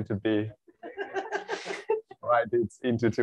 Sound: laughter

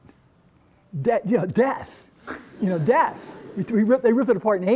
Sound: laughter

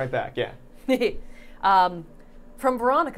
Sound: Safiya laughing

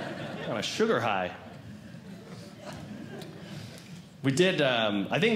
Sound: audience Laughing

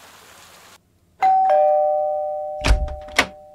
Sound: doorbell ring

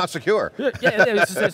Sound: laughs

